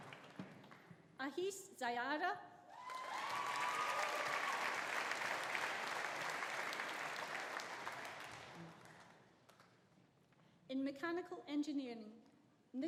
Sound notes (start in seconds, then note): 2.8 audience cheering; 2.8 audience applauding